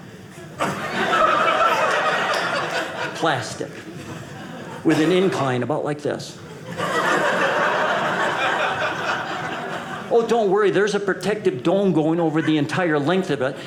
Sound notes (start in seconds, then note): 0.4 audience laughing